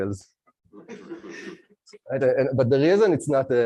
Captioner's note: laughter